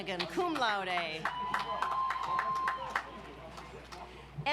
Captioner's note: audience applauds